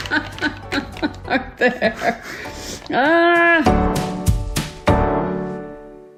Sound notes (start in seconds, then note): 0.0 laughs